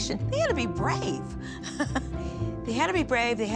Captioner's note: chuckling